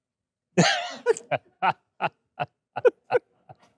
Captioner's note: laughing